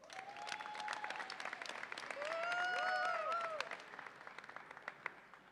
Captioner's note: audience applauds and cheers